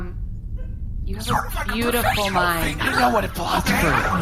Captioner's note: whispering